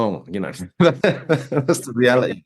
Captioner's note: laughs